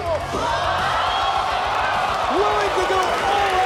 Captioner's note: crowd exclaiming